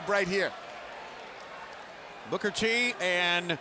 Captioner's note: fans cheering